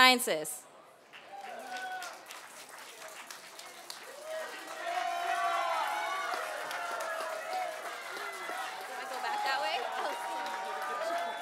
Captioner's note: applause